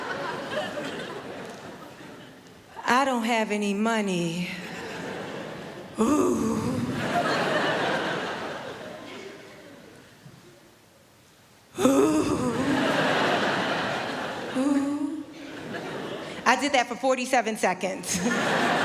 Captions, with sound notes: I don't have any money... *oohing* *oohing* I did that for 47 seconds.